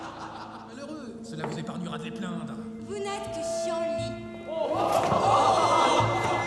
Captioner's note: men laughing; somber music; people speaking in French; people laughing; somber music